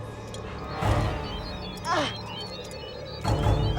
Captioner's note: cube beeping; Kelli grunting